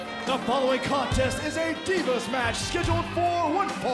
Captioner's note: bell ringing